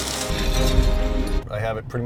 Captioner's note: glass breaking